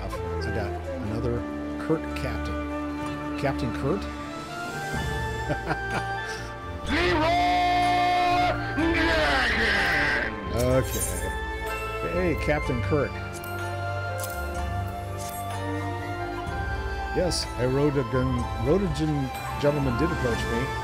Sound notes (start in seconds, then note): 5.4 laughs; 7.1 screaming